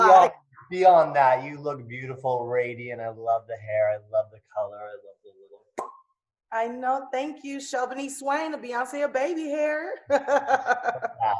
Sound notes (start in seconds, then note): 0.0 laughs; 5.7 mouth pops